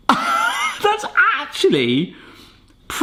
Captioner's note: laughing